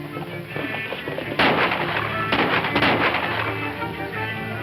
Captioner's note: rapid gunshots; screaming ecstatically